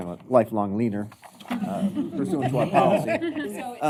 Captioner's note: laughter